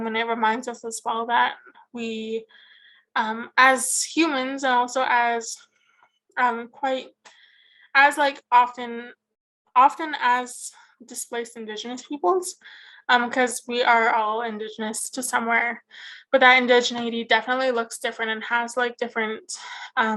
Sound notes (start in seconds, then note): none